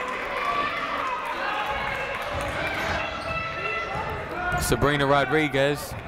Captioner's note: people shouting in the crowd